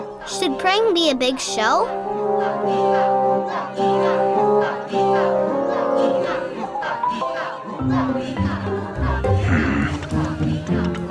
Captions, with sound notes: - [Voiceover] Should praying be a big show? (people chanting in the background) - (grumbles)